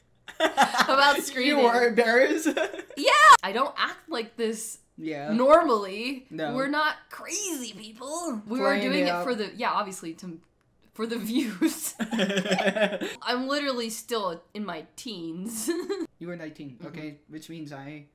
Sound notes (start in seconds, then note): 0.3 cracking up; 11.8 laughter